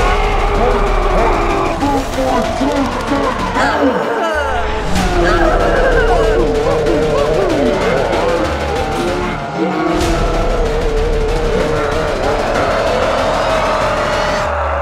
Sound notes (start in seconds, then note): 0.0 collective screaming; 0.0 slow-mo screaming; 3.8 grunts; 7.9 slow-mo commotion continues